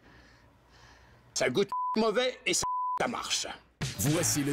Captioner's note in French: bip